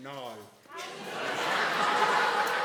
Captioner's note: audience laughing